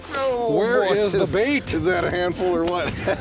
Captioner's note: voiceover